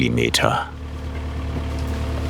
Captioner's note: engine sounds